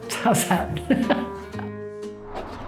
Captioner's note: laughs